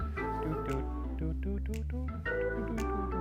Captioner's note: humming; jazzy music